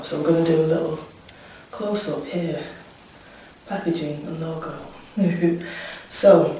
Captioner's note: laughs